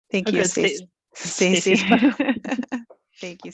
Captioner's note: laughs